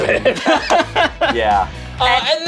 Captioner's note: group laughs